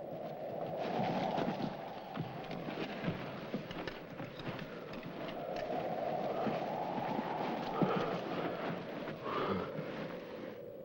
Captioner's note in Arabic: تهب الرياح